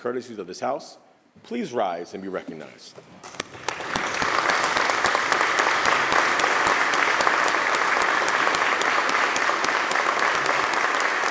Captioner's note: applause